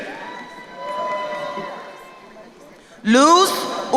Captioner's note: crowd cheering